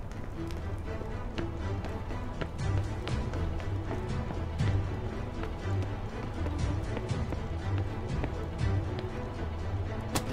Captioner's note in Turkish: Ayak Sesleri